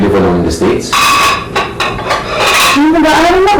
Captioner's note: clanks